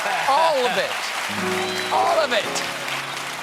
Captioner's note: cheers and applause